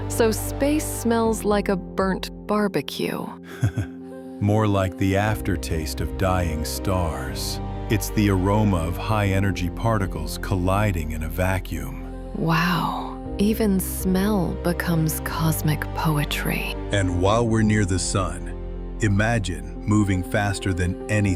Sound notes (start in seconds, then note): 0.5 wrinkles nose, laughing; 3.4 chuckles